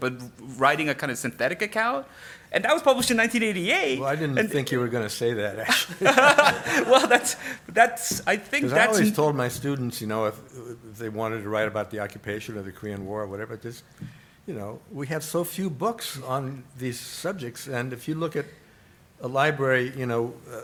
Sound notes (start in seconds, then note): 5.6 laughs